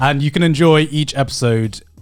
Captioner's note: affirmative murmuring